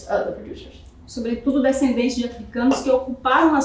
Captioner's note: speaking portuguese